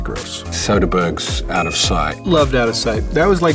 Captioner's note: bell dings